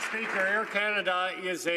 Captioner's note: some Applause